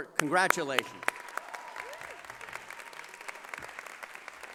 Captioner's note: cheering and applause